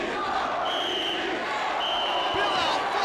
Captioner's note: whistle blowing